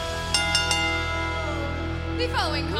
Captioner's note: bell ringing